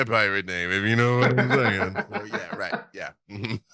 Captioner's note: chuckles